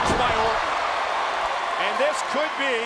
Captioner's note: applause